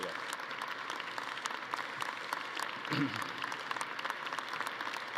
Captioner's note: attendees applauding